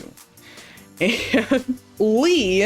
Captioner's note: laugh